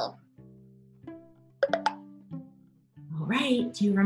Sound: popping

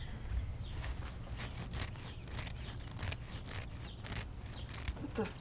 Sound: scratching Sounds

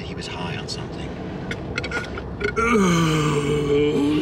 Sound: jim loud burpping

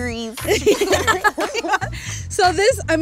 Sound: laughs

